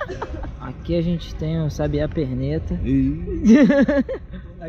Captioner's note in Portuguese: risos; risos